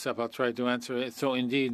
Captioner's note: speaking French